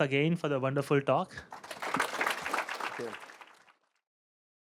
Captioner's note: applause